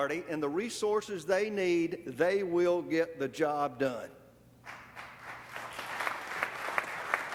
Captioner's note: applause